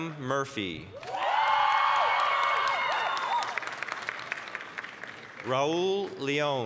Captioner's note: applause, cheering